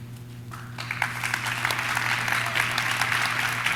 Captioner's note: audience claps